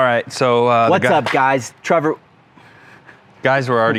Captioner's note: laughs